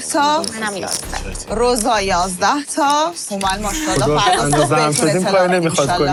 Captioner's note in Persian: خنده